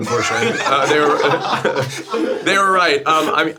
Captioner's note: group laughing